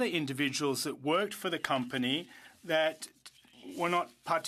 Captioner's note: speaking French